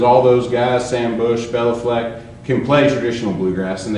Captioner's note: none